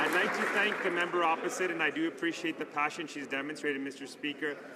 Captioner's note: some Applause